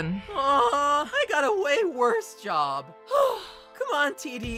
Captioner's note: sigh